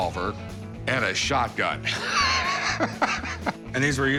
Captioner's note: laughter